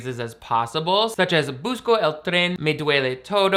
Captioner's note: speaking in foreign language